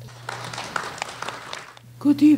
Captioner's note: applause